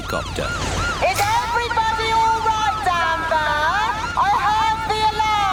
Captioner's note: over megaphone